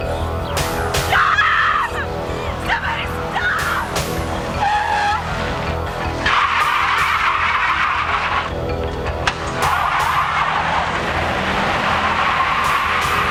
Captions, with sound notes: [screaming] Stop! Somebody stop! [tires screech]